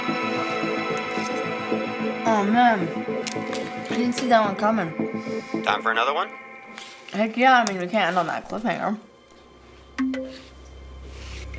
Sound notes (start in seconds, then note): 9.5 computer chimes